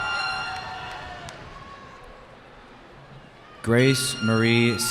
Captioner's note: cheering